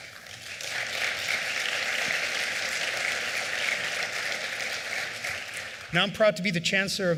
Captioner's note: applause